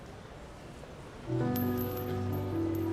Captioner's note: melancholic music; coin clinking